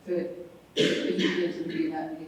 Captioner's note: cough drowns out speaker